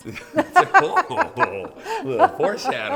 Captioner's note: laughs